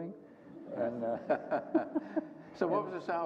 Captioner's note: group chuckles